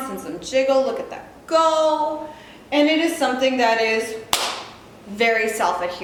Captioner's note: smacking sound